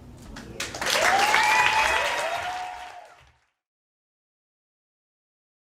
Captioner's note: crowd applauds and cheers